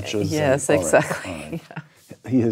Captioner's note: laugh